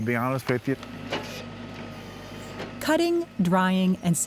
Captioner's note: machine noise